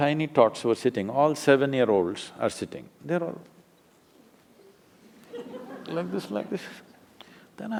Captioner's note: laughter